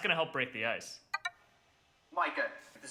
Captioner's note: computer ping